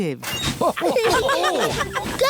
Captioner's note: laughter